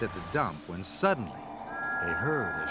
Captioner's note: whistle blowing